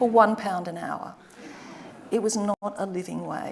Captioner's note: audience laughing